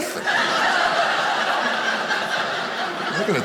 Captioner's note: audience laughing